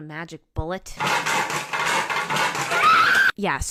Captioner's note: general chaos; somebody screams